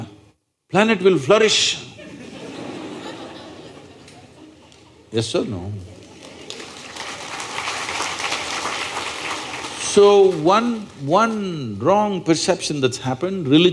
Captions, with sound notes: planet will flourish (Laughter). Yes or no (Applause)? So, one… one wrong perception that’s happened,